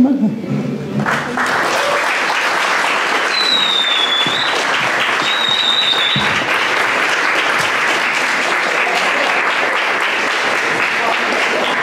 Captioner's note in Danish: klapsalve